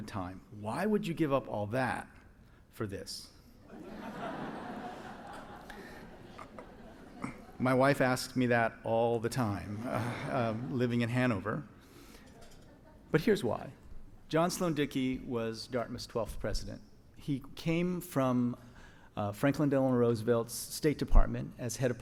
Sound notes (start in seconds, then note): 3.7 audience laughs